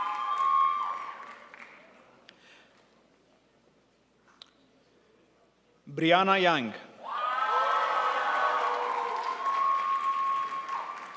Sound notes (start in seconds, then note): 7.4 crowd applauds